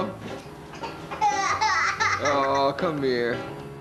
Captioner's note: crying